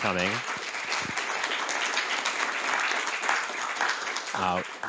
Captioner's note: audience applauding